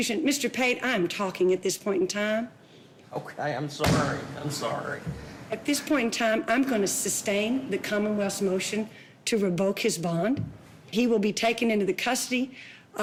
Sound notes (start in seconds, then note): 3.4 laughs; 3.8 bangs desk